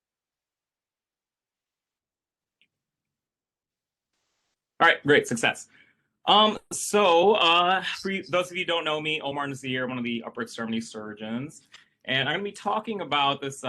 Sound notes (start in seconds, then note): none